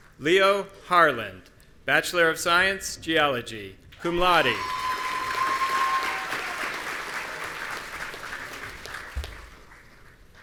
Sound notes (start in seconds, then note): 4.4 audience cheering